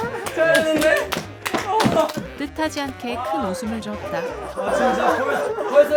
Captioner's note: breathing heavily